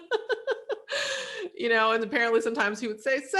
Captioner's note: laughs